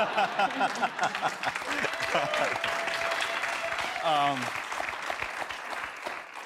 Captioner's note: audience applauds